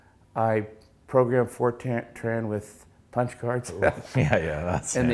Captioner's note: snickers